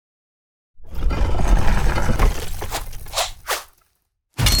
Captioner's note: stone scraping